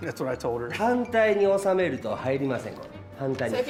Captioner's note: speaking japanese